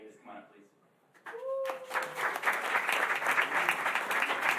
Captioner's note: applause